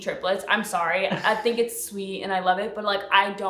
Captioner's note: laughs